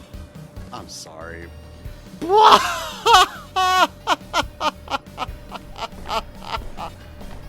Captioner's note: barely holding in laughter